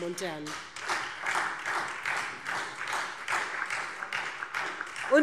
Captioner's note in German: Beifall